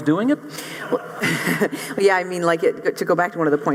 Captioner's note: laugh